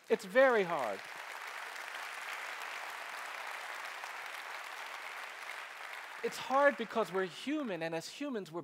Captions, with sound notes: It's very hard. (applause) It's hard because we're human, and as humans,